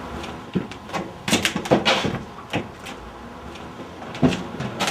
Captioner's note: wood cracking